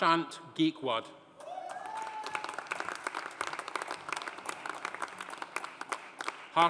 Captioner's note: audience cheering; audience applauding